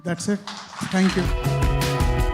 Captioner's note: applause